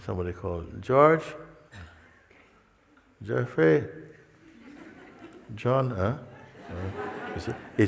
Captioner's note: risadas